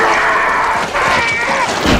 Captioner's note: screaming